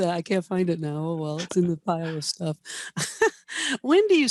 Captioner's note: laughs